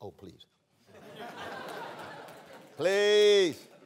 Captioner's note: laughter